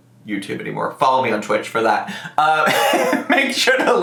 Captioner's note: laughs